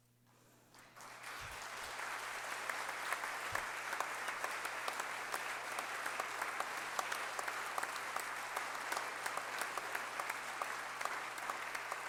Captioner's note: applause